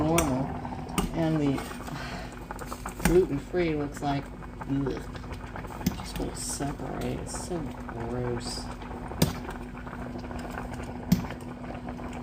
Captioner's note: sigh